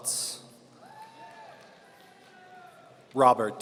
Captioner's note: audience cheering